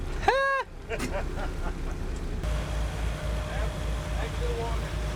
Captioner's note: laughs